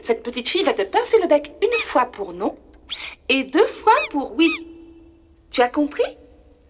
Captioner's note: toy squeaks